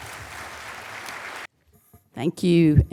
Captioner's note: applause